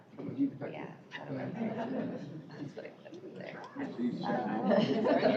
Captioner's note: indistinct chatter